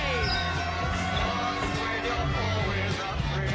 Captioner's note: all cheering